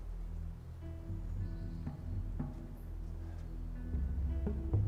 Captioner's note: birds chirping